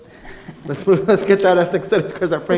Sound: laughing; laughs

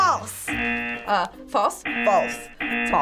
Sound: buzzer rings

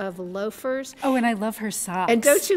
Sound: voiceover

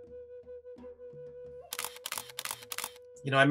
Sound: camera shattering

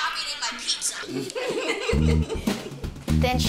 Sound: laughing

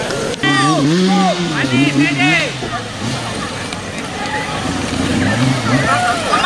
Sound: yelling in foreign language; motors hum

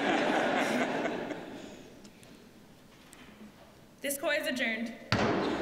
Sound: laughter

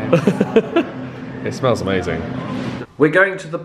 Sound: laughs

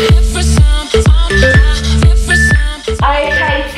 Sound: phone beeping

